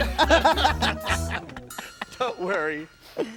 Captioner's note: laughing